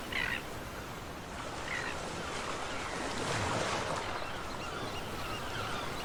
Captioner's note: waves crashing